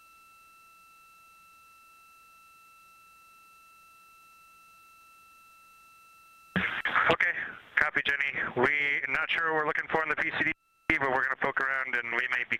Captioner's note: silence